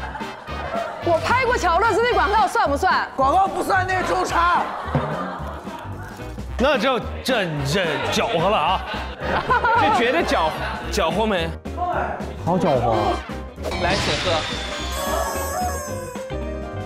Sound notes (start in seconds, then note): 4.9 humph